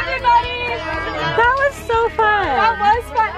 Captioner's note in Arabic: ثرثرة جماعية